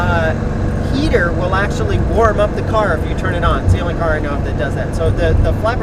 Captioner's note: the engine